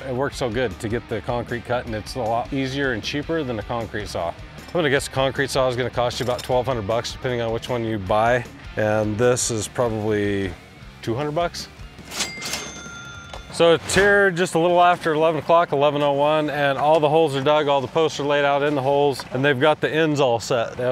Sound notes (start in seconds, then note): 12.0 cash register rings